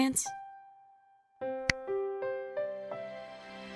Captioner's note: smack